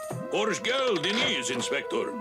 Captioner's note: speaking turkish